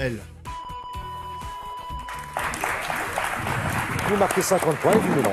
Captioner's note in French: Bips et applaudissements